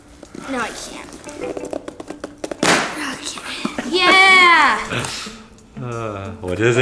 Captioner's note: box rips